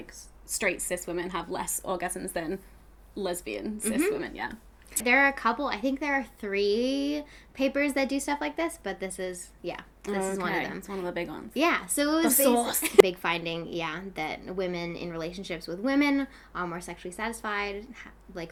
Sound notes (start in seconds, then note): 12.2 laughs